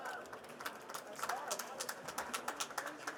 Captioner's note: participants applauding